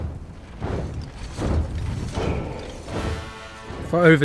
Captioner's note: feed thudding